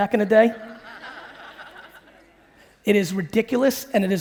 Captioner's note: audience laughing